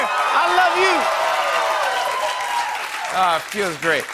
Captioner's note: cheering and applause